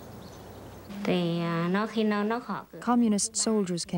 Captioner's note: speaking Vietnamese